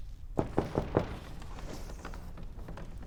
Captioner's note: knocking